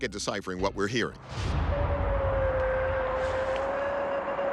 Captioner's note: eerie howl